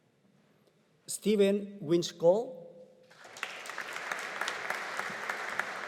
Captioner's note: audience applauding